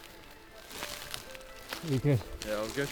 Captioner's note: footsteps on bracken; music fading in